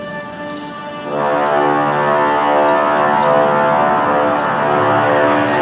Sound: horn sound effect

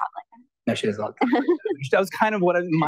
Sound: chuckles

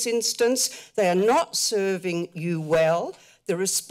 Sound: mic rustling

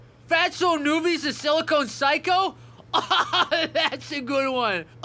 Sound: laughing

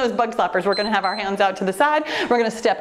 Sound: timer beeps

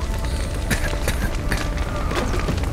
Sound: cough

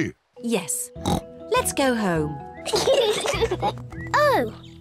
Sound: kids giggle

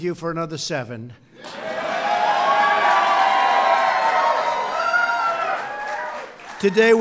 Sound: applause

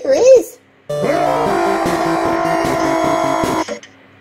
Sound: Peppino lets out a confident yell

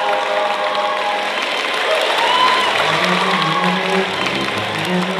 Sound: applause

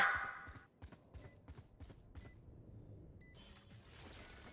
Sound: beeping

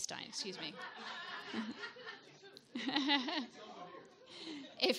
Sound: audience laughs

